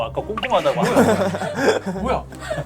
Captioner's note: giggling